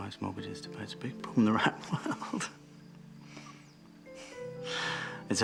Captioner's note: chuckles